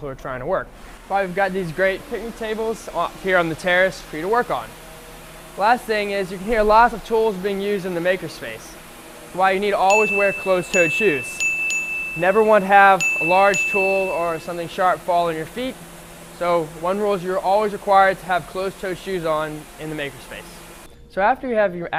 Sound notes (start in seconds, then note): 8.6 sound of machines